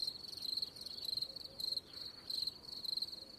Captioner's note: crickets chirping